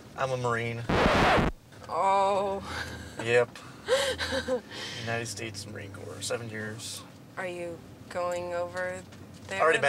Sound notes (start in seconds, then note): 0.9 record scratch; 3.9 laughs